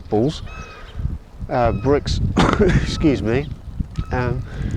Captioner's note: coughs